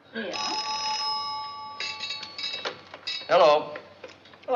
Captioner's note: phone rings